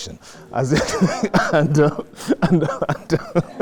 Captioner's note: laughs